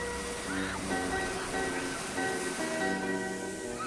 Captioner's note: waves crashing